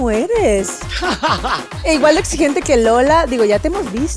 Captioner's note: expensive laugh